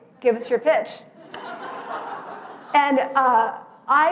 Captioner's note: laugh